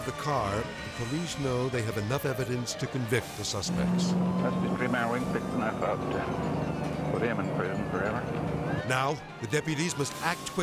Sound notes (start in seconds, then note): 3.6 car revving